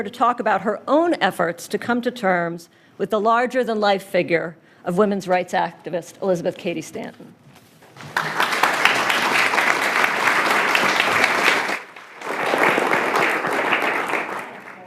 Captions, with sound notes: to talk about her own efforts to come to terms with the larger than life figure of women's rights activist Elizabeth Cady Stanton. (applause)